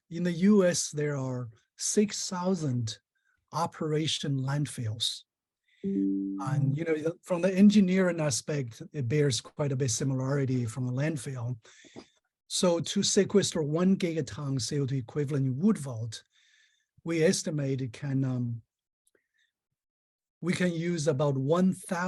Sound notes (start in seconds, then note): 5.8 software chimes